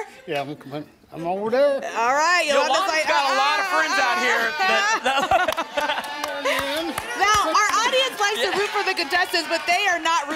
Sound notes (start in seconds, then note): 4.6 laugh